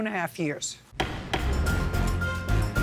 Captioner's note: gavel pounding; dramatic music